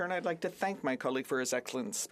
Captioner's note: speaking French